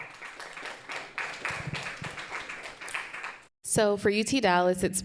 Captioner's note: audience applauding